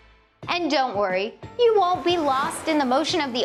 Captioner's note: waves crashing